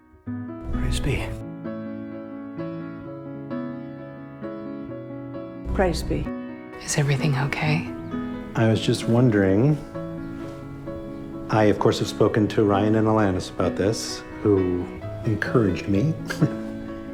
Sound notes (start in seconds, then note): 16.2 laughing